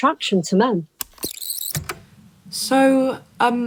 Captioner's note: the tape whirrs, fast forwarding